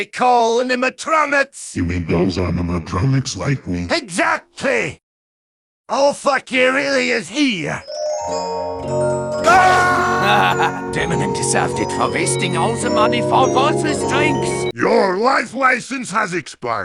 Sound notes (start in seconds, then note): 9.4 sinister laugh; 9.6 running away in Scottish Gaelic